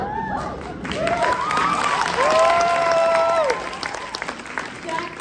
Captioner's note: applause